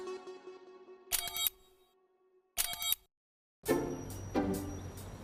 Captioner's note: computer beeps; bright music